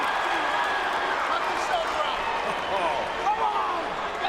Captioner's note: crowd cheers